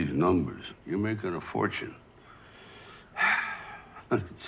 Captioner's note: sighs